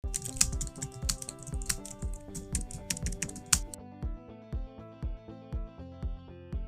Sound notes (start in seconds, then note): 0.0 keyboard keys clatter; 0.0 upbeat music playing